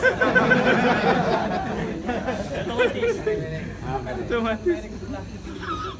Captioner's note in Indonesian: Jama'ah tertawa